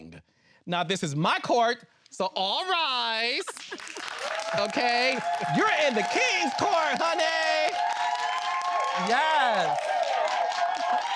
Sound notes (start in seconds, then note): 4.1 cheering